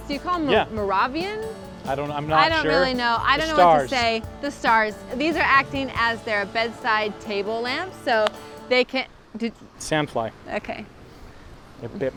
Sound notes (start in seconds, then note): 9.2 slapping